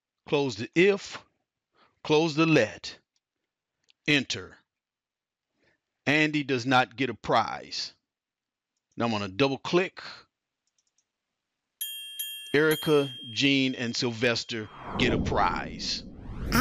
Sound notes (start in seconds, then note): 11.8 dings